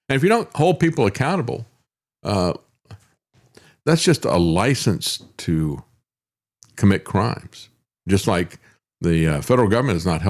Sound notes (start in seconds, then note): none